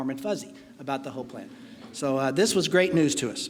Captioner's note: laughing